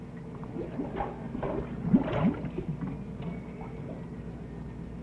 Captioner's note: water bubbling